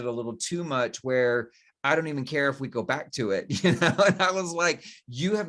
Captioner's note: laughs